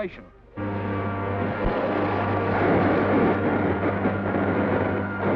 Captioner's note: thunder booming